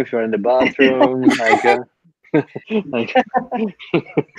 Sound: laughing

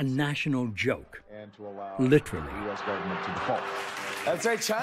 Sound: audience laughing

